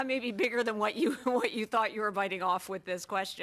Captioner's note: laughter